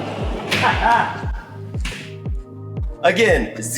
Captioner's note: laughs